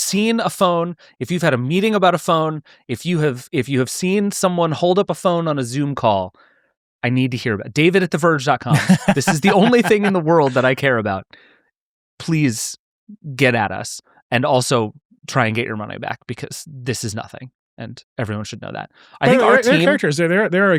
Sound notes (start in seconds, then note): 8.7 laughing